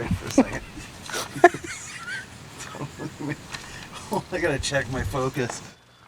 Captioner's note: awkward laugh